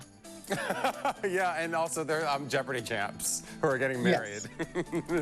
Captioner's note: laughter